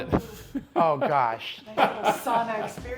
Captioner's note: laughs